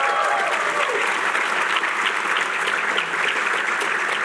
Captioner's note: cheering